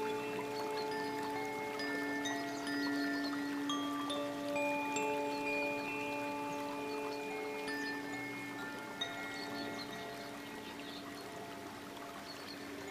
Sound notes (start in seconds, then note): 6.5 bells lightly chiming; 6.5 water babbling